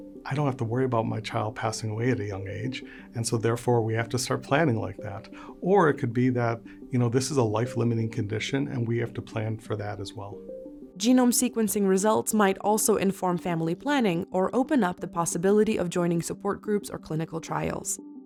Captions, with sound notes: I don't have to worry about my child passing away at a young age. And so, therefore, we have to start planning like that. Or it could be that, you know, this is a life limiting condition, and we have to plan for that as well. [Voiceover] Genome sequencing results might also inform family planning, or open up the possibility of joining support groups or clinical trials.